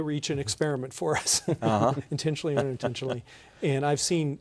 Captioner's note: laughter